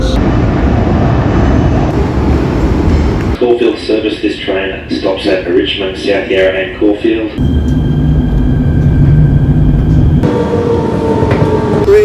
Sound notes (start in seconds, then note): 0.2 train passing; 7.2 train accelerating; 10.3 train moving through a tunnel